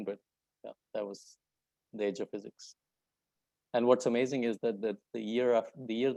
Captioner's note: none